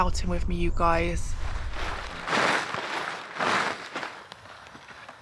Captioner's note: shaking tarp